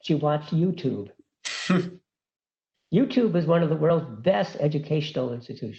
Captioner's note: laugh